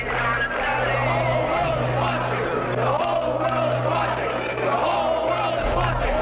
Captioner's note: chanting